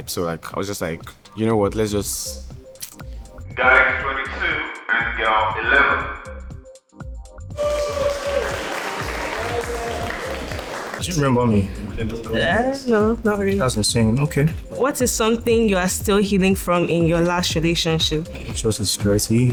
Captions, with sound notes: So like, I was just like, you know what, let's just. Guy 22 and girl 11. (crowd cheering) Do you remember me? No, not really. That's insane, okay. What is something you are still healing from in your last relationship? I'll say insecurity,